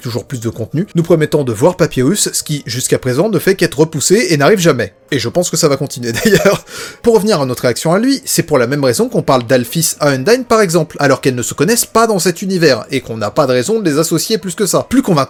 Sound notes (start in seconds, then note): 6.1 laughs